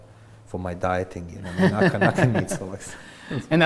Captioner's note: both laughs